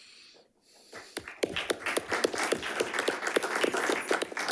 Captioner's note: attendees clapping